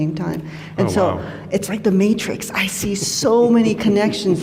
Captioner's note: chuckles